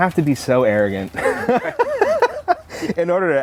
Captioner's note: laughter